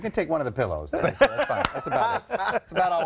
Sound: laughter

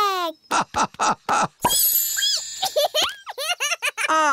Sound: laughing; squeaking; giggling

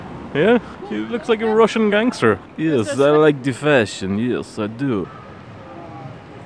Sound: russian Accent

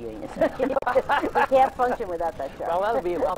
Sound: laughs

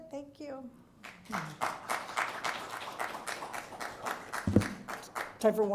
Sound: applause

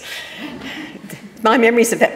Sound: audience laughing

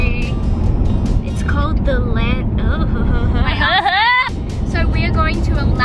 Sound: laughs

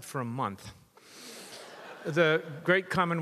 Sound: audience laughs

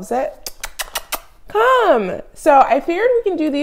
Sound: kissy noises

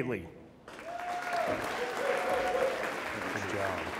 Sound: audience applauds and cheers

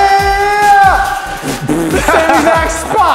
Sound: raspberry

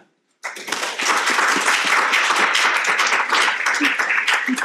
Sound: audience applauding

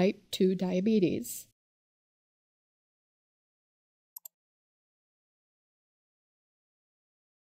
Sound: pause

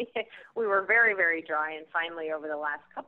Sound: laughs

